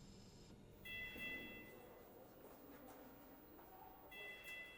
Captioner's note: sound of slow heartbeat on heart rate monitor